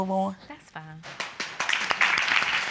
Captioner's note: audience applause